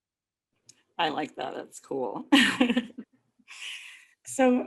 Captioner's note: laughs